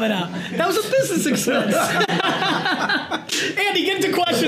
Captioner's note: group laughter